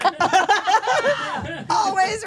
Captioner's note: all laughing